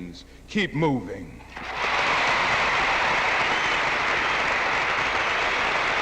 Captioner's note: audience applauding